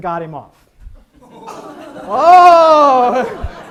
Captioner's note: audience laughs